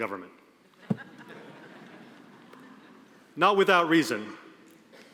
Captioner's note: audience laughing